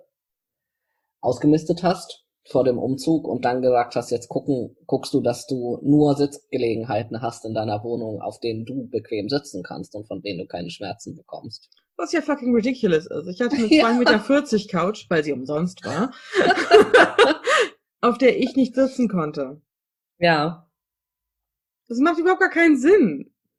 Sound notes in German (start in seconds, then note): 15.8 beide lachen; 15.8 lacht